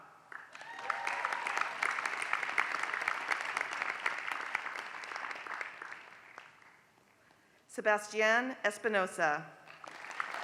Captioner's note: applause; applause